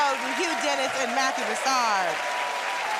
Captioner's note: cheers and applause